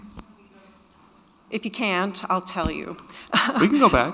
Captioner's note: chuckles